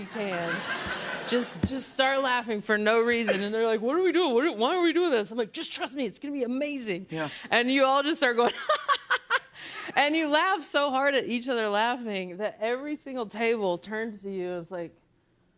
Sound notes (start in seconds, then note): 0.0 laughter; 9.0 laughing